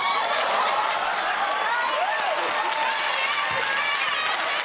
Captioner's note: cheers and applause